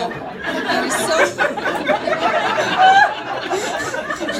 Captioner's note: audience laughing